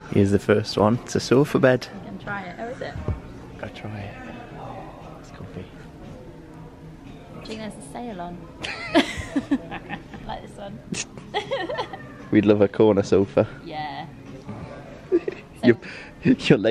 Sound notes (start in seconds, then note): 10.9 laughing